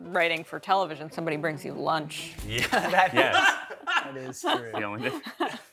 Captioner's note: group laughs